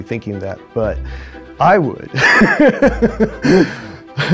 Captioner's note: laughter